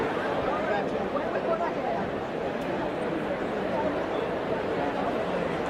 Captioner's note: none